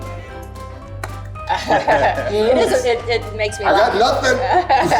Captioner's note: hands clap; group laughs